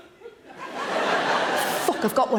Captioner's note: audience laughing